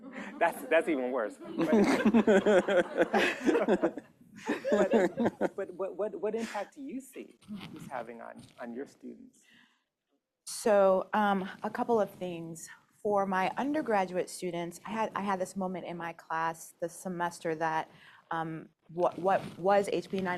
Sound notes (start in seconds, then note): 1.5 laughter